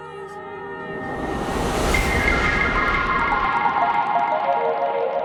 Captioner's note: electronic warble